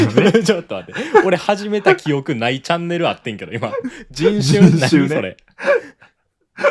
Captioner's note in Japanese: 笑い